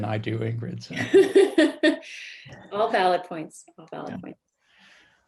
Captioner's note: laughs